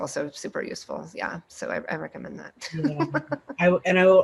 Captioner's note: laughs